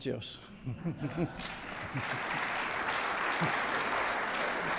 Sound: audience applauds

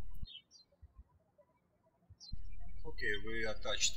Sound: birds chirping

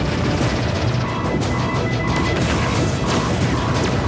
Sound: beeping

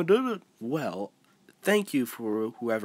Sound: weird pause

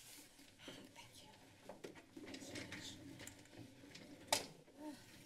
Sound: strikes the gavel; whispering; exhales

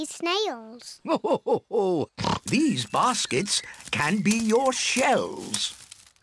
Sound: laughs

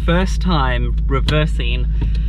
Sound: engine rumbling

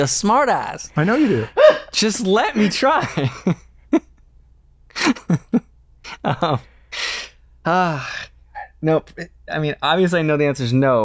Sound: laughter

